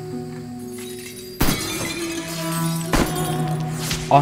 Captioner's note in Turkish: Silah sesleri